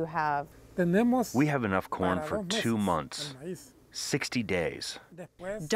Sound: through translator

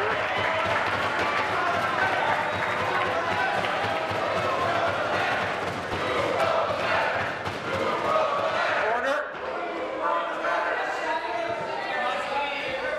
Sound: applause; chanting

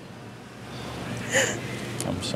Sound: sobbing

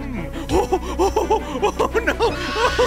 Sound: laughing

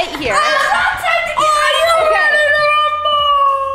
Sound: boys cheering

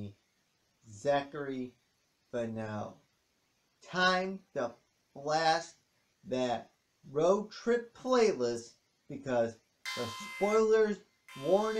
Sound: ALARM sounds

